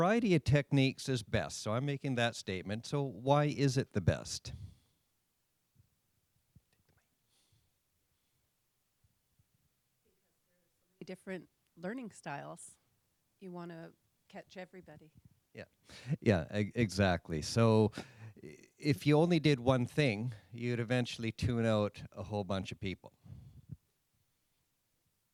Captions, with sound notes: a variety of techniques is best. So I'm making that statement. So why is it the best? - [Voiceover] Different learning styles. You want to catch everybody. - Yeah. Exactly. So if you only did one thing, you'd eventually tune out a whole bunch of people.